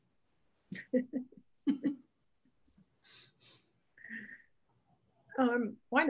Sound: laughs; chuckles

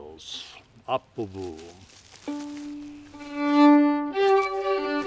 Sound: speaking Swedish; joyful fiddle music

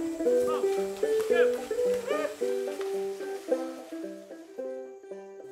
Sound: banjo playing; calling at cattle

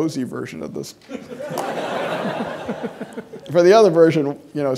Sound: audience laughing

